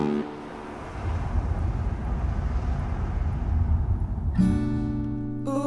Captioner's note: car engine